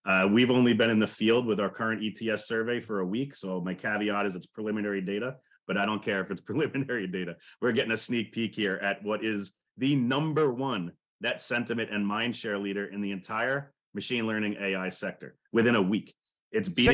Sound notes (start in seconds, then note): 7.2 laughing